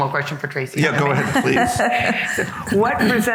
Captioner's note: laughing